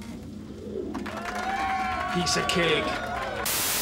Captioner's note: <i> cheering</i>